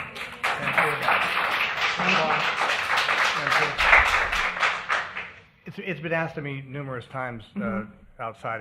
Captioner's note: applause